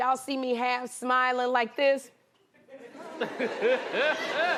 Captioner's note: laughter